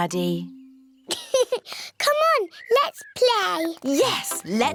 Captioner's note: laughs